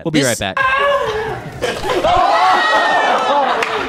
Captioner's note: laughs